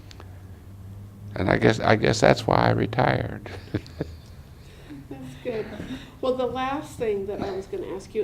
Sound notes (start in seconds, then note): 3.2 laughs